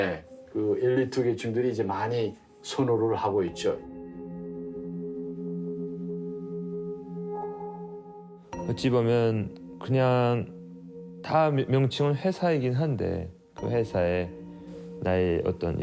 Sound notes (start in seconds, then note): 8.9 speaking Korean